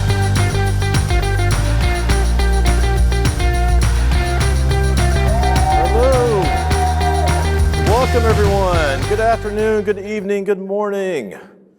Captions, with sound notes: (upbeat music) (audience cheering) - Hello. Welcome, everyone. Good afternoon, good evening, good morning.